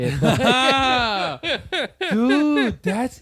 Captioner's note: laughter